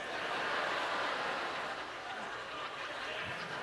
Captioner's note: audience laughter